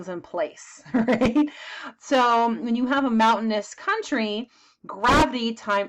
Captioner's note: chuckles